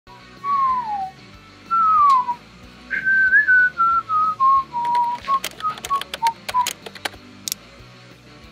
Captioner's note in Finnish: Viheltelyä